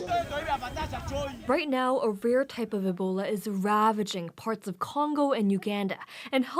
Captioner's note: speaking alternate language